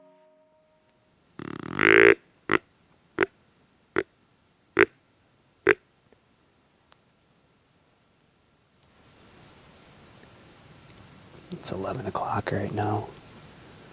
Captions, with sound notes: (deer calling) It's 11 o'clock right now.